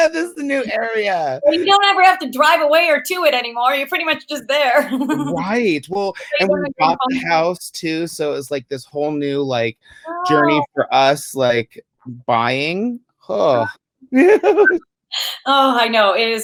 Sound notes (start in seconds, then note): 14.3 giggles